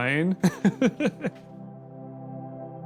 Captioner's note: laughs